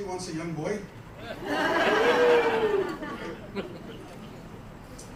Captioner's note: laughter